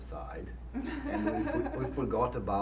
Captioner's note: laughing